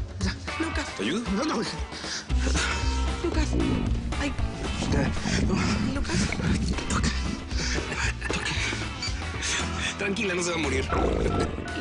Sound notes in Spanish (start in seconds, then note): 4.7 Ruido de las tripas; 6.9 Gabriel ríe; 11.0 Rugido de las tripas